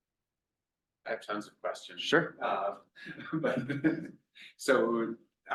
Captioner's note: laughs